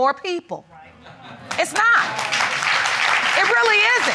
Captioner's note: applause